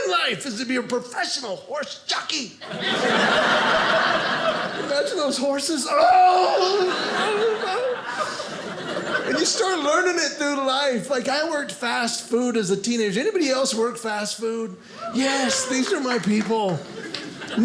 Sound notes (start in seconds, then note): 2.6 audience laughing; 5.9 screams; 6.4 audience laughing; 15.0 audience cheering